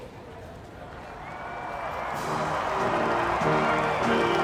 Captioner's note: crowd cheering; upbeat music